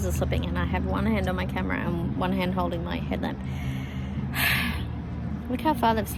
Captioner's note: sighs